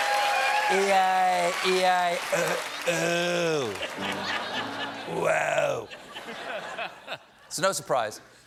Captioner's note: laughter